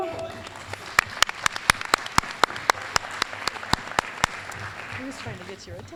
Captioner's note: applause